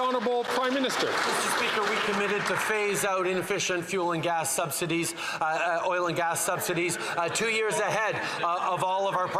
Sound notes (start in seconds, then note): 3.3 some Applause